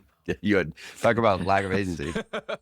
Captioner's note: laughs